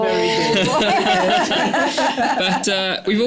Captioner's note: laughter